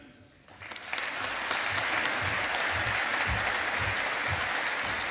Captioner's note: audience applauding